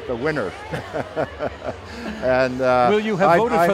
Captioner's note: laughing